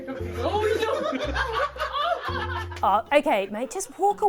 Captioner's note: laughing